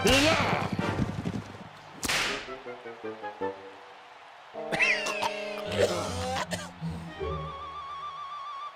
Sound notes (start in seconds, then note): 0.1 whipping noise; 4.6 coughing